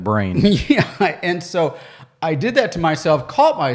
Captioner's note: chuckles